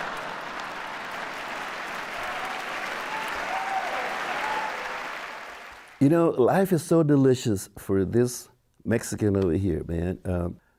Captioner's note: laughter and applause